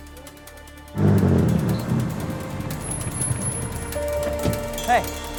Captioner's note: soft dramatic music; engine rumbling; brakes squeaking; door clicking